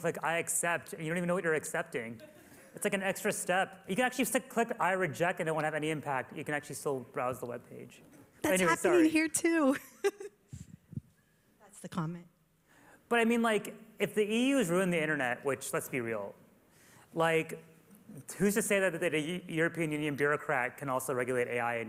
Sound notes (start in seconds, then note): 9.7 laughter